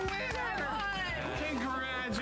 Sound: applause

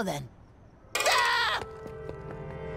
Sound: screaming

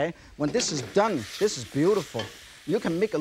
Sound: ingredients sizzling; pan rattles

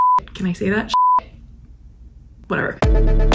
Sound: beep

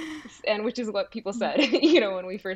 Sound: laughs

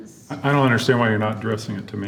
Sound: laughter

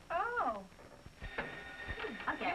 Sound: phone ringing

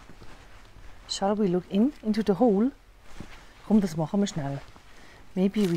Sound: swiss german: chumm, das machemer schnell

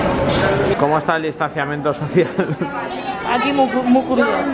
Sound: laughter

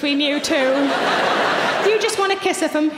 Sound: audience laughing

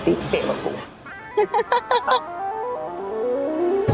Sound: laughing; eerie music

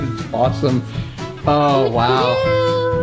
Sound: laughing

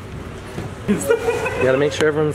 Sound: laughter

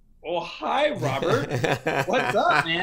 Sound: laugher

